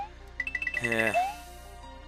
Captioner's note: sigh